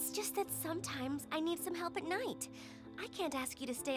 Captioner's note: none